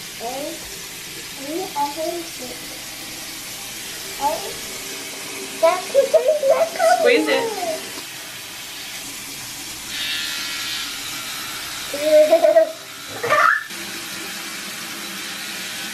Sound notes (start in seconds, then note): 10.2 toothbrush buzzes; 12.0 laughs